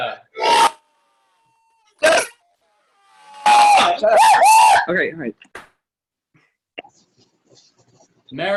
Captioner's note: cheering